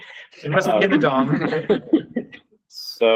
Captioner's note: laughter